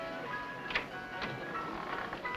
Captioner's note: door opens